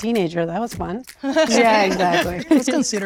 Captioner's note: group laughing